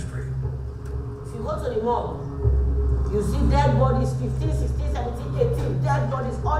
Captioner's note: voiceover